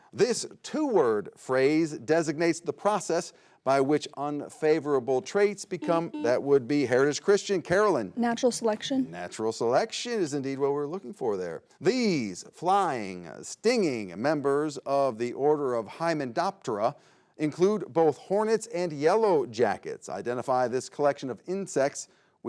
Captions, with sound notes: this two-word phrase designates the process by which unfavorable traits become- (button blips) that would be Heritage Christian. Karalynn? - Natural selection? - Natural selection is indeed what we're looking for there. These flying, stinging members of the order of hymenoptera include both hornets and yellow jackets. Identify this collection of insects